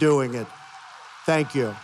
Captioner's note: applause